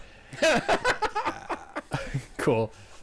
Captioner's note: laughing